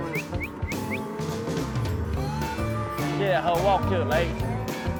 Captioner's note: whistling, mooing